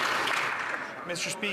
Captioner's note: some Applause